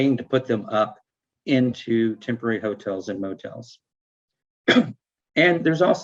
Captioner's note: coughing